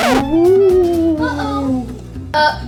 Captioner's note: ghostly sounds